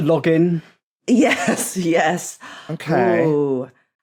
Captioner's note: laughs